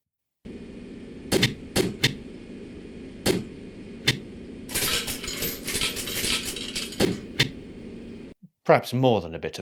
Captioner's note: door opening and closing